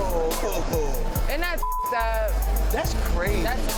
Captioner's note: beeps